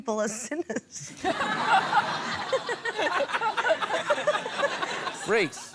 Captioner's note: laughter